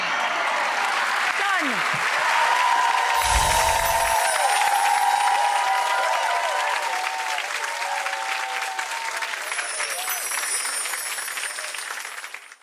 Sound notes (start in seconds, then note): 0.1 audience applauds and cheers; 2.3 audience cheers; 3.1 twinkling chimes; 3.2 air whooshes; 9.2 twinkling chimes